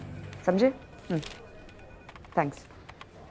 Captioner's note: Phone ringing